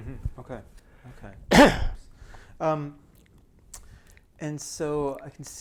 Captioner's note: clears throat